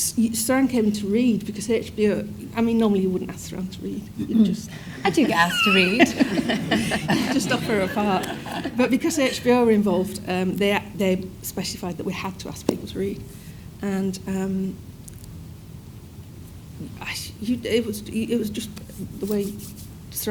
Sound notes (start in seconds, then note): 6.3 audience laughing